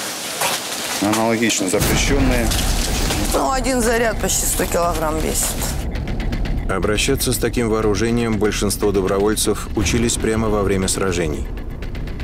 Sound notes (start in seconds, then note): 1.8 rockets